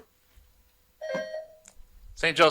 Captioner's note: buzzer buzzing